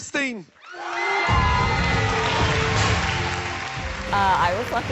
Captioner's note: applause